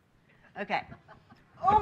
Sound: laughing

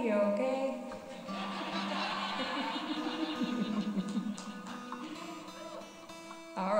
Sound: gutar tuning; audience laughter

